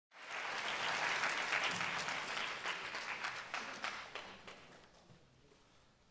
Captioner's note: applause